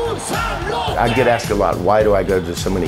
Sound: chanting in foreign language

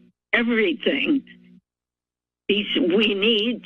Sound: pause

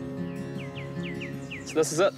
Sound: birds twitter

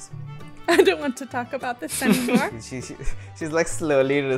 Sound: laughs

